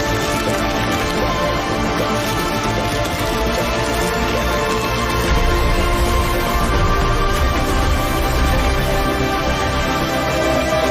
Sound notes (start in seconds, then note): 0.2 rain falling; 5.1 ground bursting